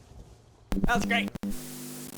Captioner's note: static buzzing